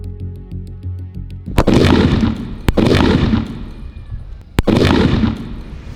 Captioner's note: cracker Bursts